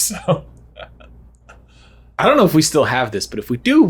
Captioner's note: laughs